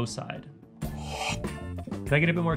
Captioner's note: sips